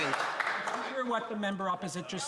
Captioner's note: some Applause